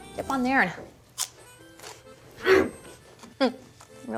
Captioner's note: crunch